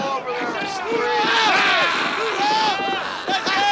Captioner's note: shouting